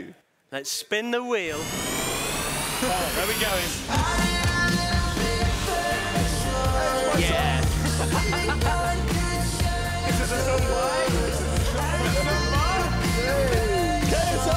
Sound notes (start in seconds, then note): 1.5 whooshing; 4.8 upbeat music; 8.6 loud chattering